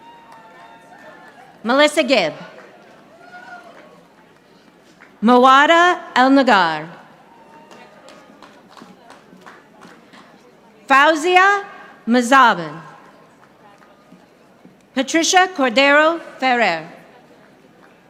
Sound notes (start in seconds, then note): 0.0 audience applauding; 7.3 audience applauding